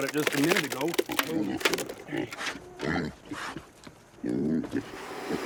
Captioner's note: pigs snorting